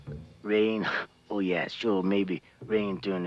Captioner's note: chuckles